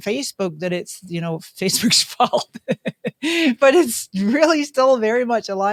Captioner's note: laughs